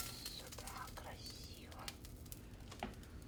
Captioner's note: whispering